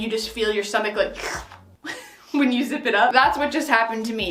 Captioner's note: slurps